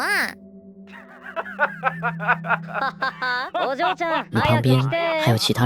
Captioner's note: hahahahahahahaha